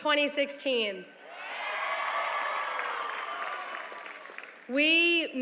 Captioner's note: cheering